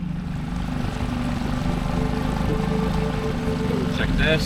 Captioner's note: boat motor running